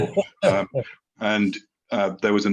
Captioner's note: laughs